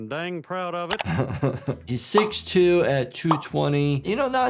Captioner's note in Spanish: se ríe